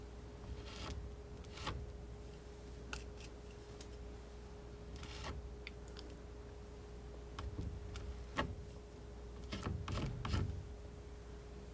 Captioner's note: scratching